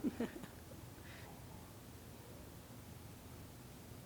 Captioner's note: people chuckling